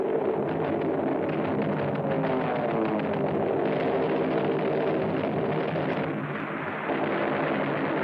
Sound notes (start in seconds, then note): 1.9 plane droning; 3.3 machine gun firing